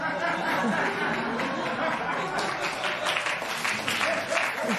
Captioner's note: laughter and applause